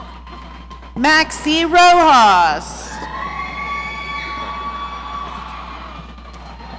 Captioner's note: audience cheering